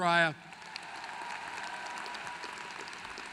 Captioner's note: applause